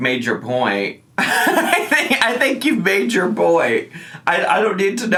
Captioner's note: laughing